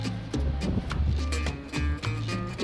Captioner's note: wind whooshing; upbeat music